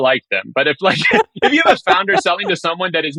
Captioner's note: laughing